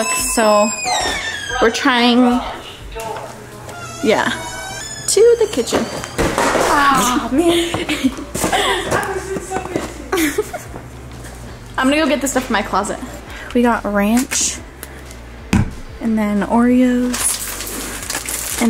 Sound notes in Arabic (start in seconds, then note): 6.6 ضحك